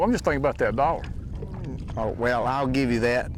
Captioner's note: chuckling